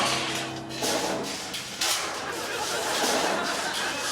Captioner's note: clanging and rattling